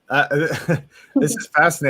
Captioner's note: laughs